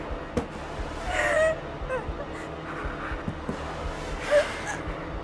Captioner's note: Tina whimpering